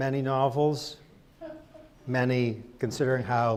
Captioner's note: person laughs